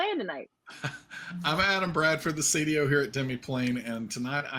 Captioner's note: laughs